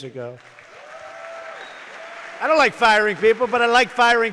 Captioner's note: applause